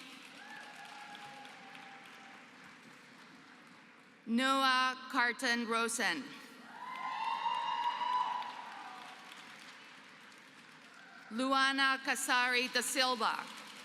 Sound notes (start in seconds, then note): 0.0 applause; 6.7 applause